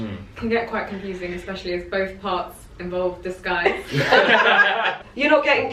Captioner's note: laughter